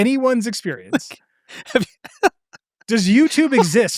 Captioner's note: laughing